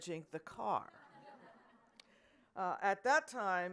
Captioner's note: audience laughing